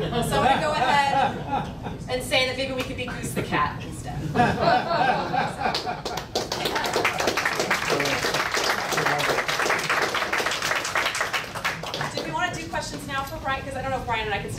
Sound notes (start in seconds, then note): 4.4 laughing; 5.6 audience clapping